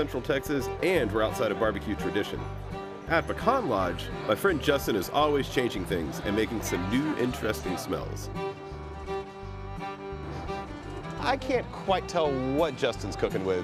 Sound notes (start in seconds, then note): 8.0 sniffs; 10.2 sniffs again